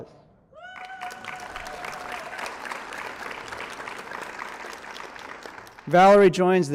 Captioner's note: applause